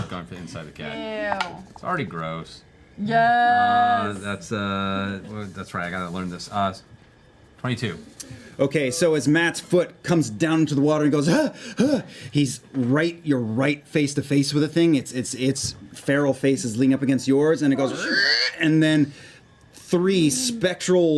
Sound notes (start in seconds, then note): 12.2 panting; 17.8 yowls